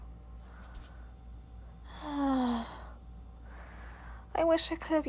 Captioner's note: sighs